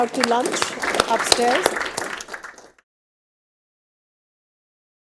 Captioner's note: audience applauding